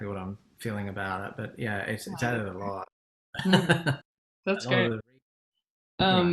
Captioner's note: laughs